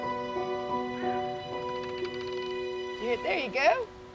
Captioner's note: animal clicking